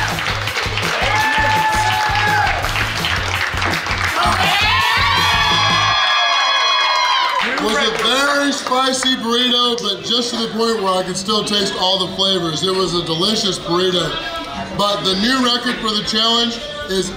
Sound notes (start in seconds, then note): 0.2 patrons clapping; 4.8 patrons cheering